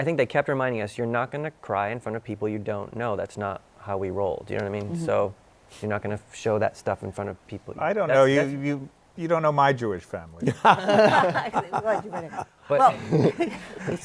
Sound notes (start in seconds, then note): 10.4 laughter